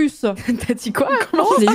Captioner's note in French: rire inquiet